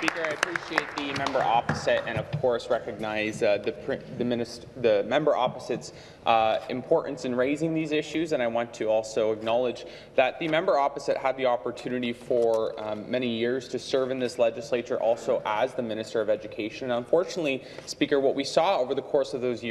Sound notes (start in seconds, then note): 3.2 applause